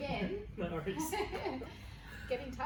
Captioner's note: laughs